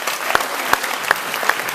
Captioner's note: applause